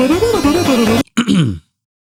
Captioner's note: clears throat